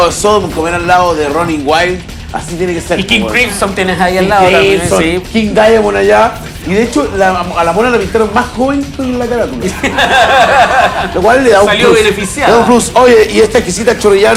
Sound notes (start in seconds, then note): 9.6 laughs